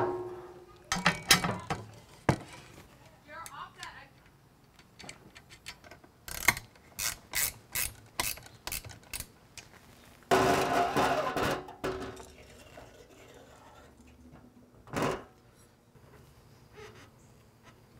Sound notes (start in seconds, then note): 0.0 metal clashing; 6.9 spanner tightening; 10.4 metal clashing